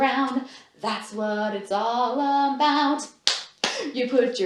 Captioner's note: clap, clap